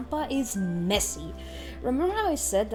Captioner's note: big inhale